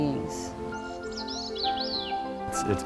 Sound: bird trilling

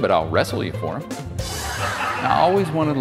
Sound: audience laughing

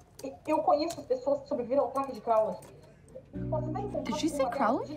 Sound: Foreign language .... “Crowley”... foreign language

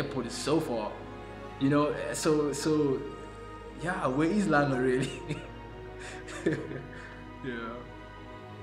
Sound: laughs

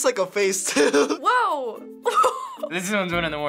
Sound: chuckles

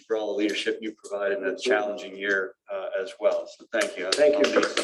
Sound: applause

